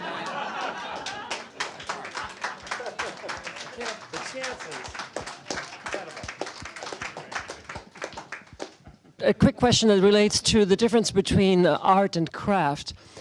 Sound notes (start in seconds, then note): 4.8 applause